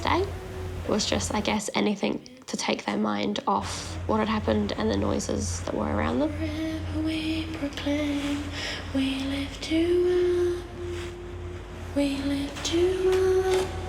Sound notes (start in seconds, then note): 10.3 waves crash